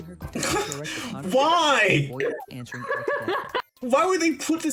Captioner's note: laughing